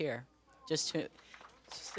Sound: applause

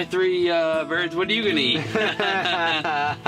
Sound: laughing

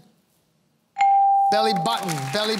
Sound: applause

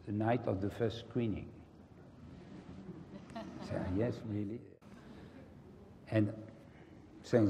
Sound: laugh

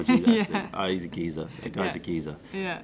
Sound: laughter

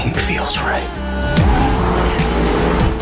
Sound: tires screech

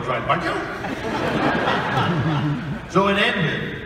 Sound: audience laughing

